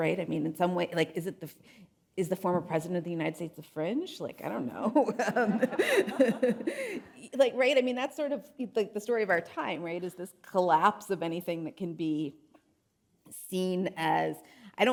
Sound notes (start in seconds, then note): 5.0 laughs; 5.2 audience laughing